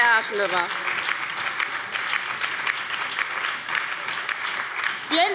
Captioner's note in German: Beifall bei der LINKEN, der SPD und dem BÜNDNIS 90/DIE GRÜNEN